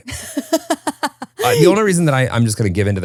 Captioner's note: laughing